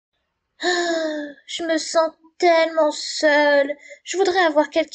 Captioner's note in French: soupire